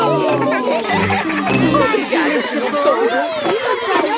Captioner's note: giggling